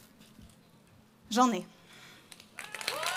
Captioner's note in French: Applaudissements